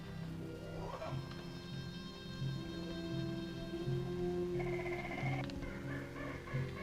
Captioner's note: tense orchestral music; animals chittering